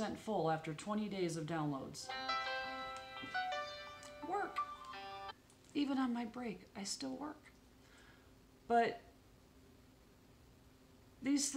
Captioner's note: phone rings